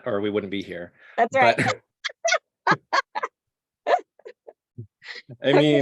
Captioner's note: laughing